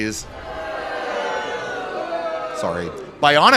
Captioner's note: boos